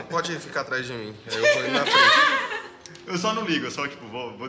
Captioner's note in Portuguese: Risadas